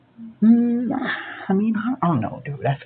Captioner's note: sighs in a scout fashion